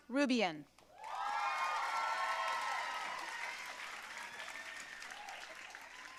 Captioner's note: audience cheering and applauding